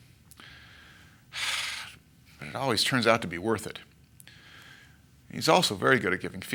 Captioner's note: sighs